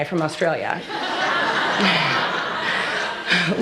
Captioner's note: laughter